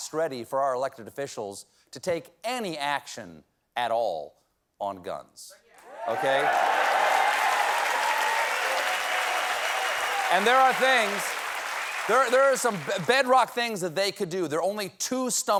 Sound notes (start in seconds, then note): 8.4 cheers and applause